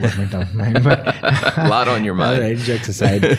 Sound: laughing

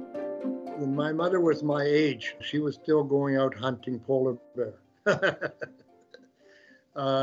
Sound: laughs

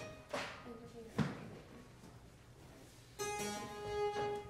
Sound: speaks faintly; instruments tuning

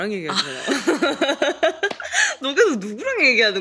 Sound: laughing

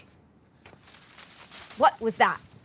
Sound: bushes rustling

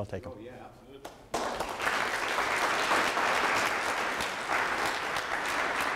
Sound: audience members applaud

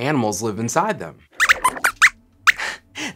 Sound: squeaks squeaks

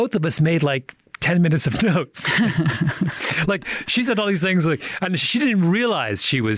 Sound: laughs

